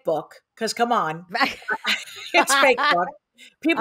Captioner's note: laughs